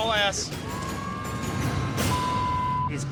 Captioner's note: sirens wailing